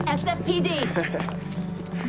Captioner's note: chuckles